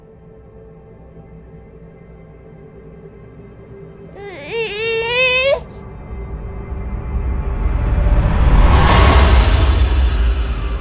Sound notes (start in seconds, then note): 1.3 whimpering; 4.2 dramatic music